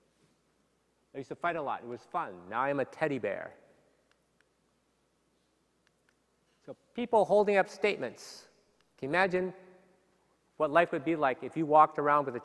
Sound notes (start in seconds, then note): none